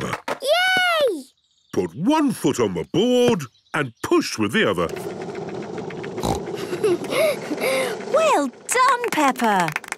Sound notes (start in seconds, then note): 6.2 giggles, snorts